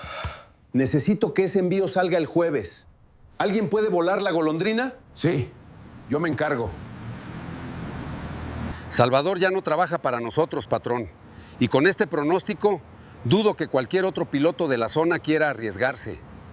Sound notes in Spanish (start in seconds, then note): 0.0 suspiro